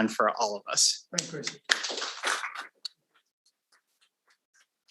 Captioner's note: audience applauding